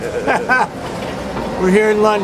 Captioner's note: both laugh